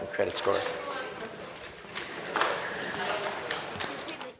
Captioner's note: audience chattering